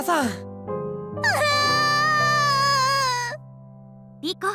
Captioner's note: waterworks